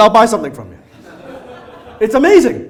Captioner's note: audience laughs